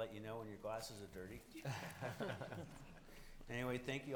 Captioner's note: chuckling